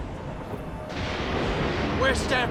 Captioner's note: thunder rumbles